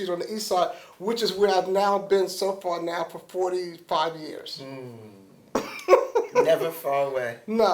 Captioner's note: laughter